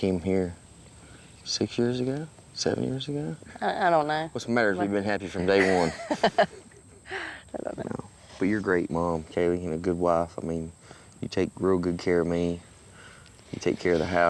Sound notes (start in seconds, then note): 5.4 laughs